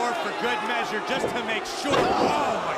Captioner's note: crowd chatter